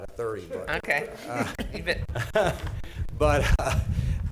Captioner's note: chuckling